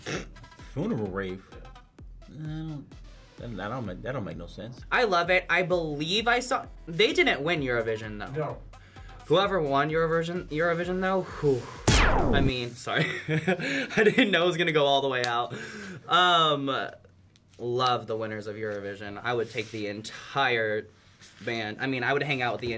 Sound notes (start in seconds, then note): 11.8 laser zapping; 13.5 laughs